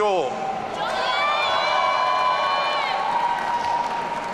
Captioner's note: audience cheering